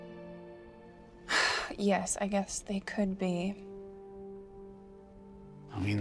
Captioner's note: sighs